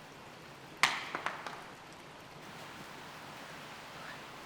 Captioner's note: water gushing